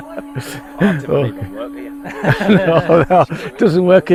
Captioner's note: laughing